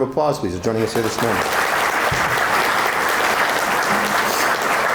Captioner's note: audience applauding